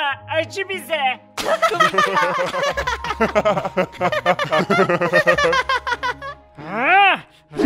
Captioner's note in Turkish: Kahkaha sesi